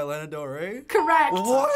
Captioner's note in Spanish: ding